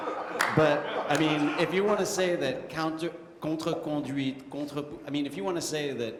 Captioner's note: french